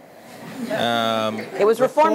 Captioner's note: laughter